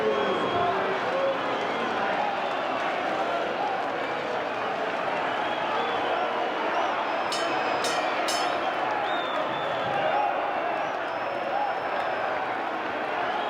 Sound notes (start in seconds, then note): 8.6 applause